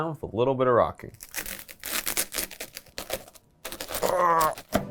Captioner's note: wafers crunching